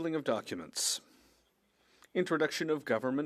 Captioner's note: speaking French